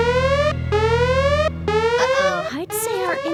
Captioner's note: alarm ringing